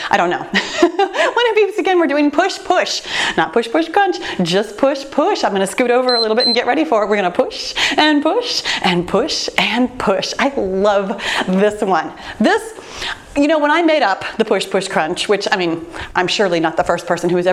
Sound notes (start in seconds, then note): 0.5 laughs; 6.0 timer beeps